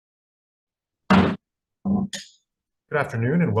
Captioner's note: gavel bangs